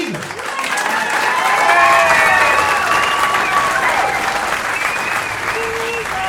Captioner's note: cheering